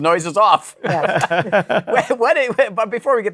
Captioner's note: laughter